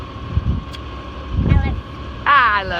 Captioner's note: Smooch